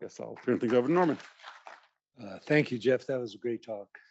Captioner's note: applause